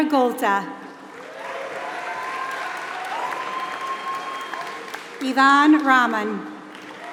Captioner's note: applause